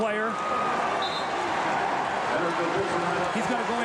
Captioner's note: whistle blows